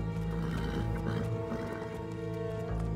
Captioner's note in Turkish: At kişneme sesi